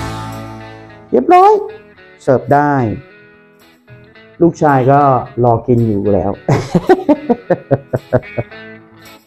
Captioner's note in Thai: เสียงหัวเราะ